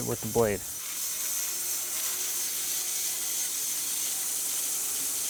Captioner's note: saw whirring